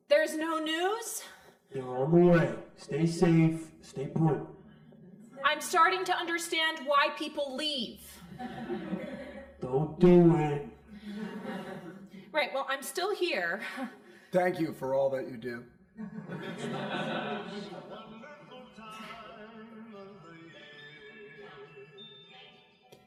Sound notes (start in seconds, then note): 8.2 crowd laughing; 15.9 crowd laughing